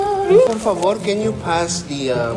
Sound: speaks in spanish

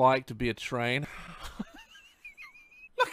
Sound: wheeze

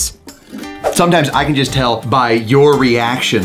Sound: screen swooshes

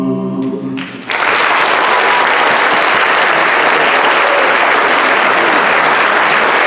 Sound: applause

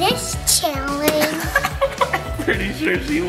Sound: laughing

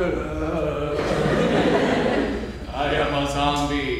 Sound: groaning

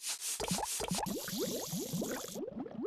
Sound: bubbling

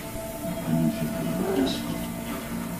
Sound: dragon chatters

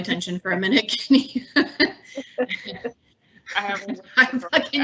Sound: laughs

